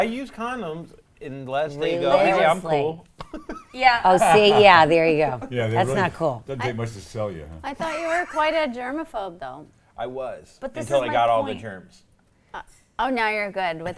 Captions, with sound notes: No, I use condoms, unless they go, - Religiously. - "Hey, I'm cool." (laughter) - Oh, see, yeah, there you go. - Yeah, they really-- - That's not cool. - Don't take much to sell you, huh? (wheezy laugh) - I thought you were quite a germaphobe, though? - I was. - But this is my point. - Until I got all the germs. - Oh, now you're good?